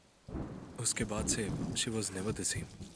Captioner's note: thunder and lightning